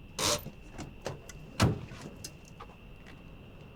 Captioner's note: car door closes